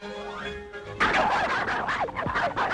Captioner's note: both barking